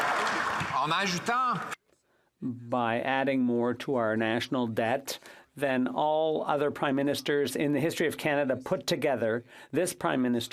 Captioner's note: some Applause